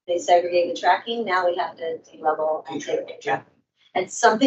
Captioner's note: microphone cuts out